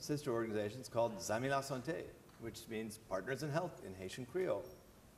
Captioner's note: non-english